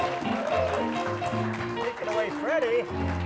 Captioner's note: applause; upbeat music